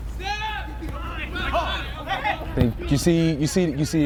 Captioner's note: players shouting